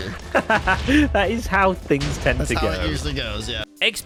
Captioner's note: laughs